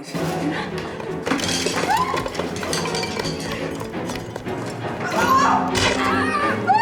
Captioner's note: crash; Freddie screaming; bang